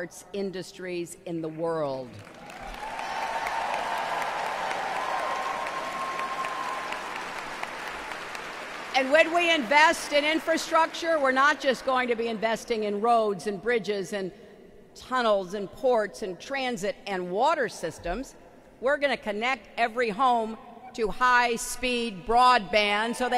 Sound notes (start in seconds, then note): 7.2 applause